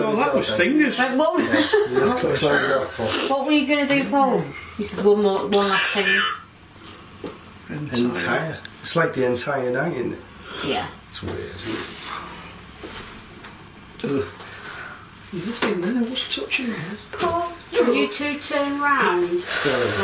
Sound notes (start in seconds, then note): 6.3 voice on Ovilus